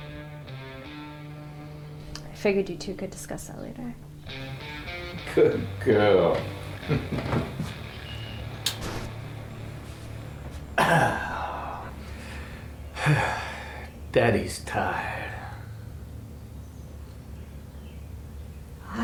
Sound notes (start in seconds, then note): 6.9 laugh and kiss to the forehead; 10.6 deep clearing of the throat; 12.5 big exhale